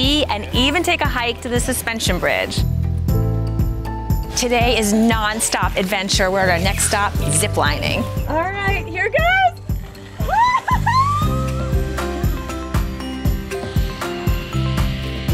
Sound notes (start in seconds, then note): 10.4 cheering; 12.4 calming music